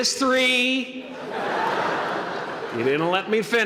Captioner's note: laughter